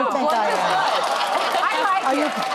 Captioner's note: audience laughs